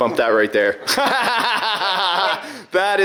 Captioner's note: laughing